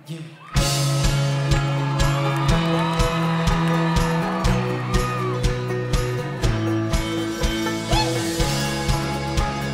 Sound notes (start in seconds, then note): 0.2 upbeat music; 2.9 crowd cheering